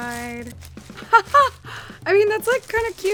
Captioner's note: laughing